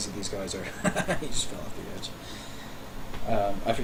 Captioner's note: laughing